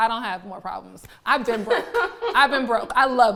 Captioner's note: laughing